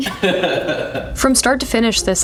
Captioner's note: laughs